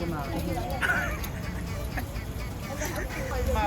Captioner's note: laughs